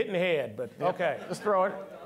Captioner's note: all laughing